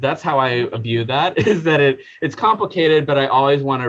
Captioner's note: chuckling